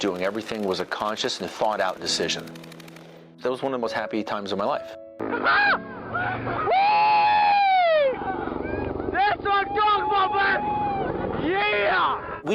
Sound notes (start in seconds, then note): 5.2 helicopter firing, troops cheer